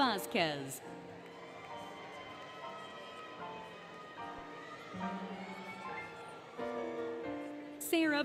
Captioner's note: applause, Cheering, Music